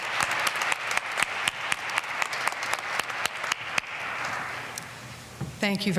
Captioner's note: applause